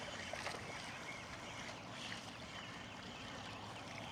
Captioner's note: water splashing